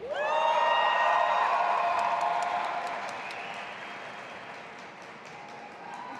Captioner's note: audience applauding and cheering